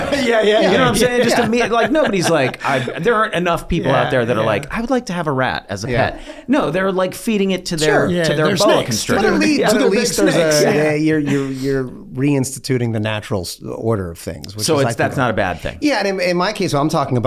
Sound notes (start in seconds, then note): 0.0 laughs; 2.0 Charlie laughing